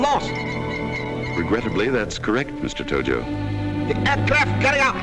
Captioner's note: voiceover